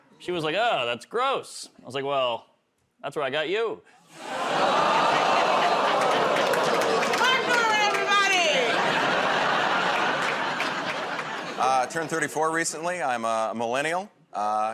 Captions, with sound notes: She was like, "Oh, that's gross." I was like, "Well, that's where I got you." [ Audience "Oh"s ] -Martin Normand, everybody! [ Laughter ] -Turned 34 recently. I'm a Millennial.